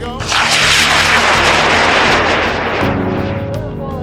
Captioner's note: rocket launching